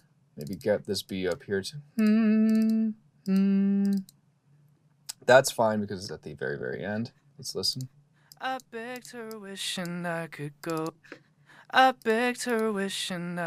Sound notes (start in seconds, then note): 1.9 humming; 8.4 vocals playing